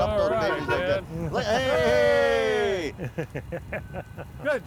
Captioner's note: horn honking; laughing